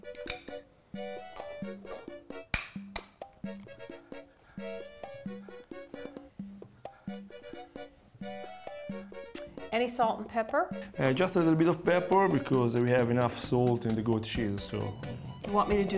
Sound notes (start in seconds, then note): 0.3 light upbeat music; 2.5 egg cracks